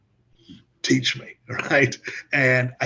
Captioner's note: laughs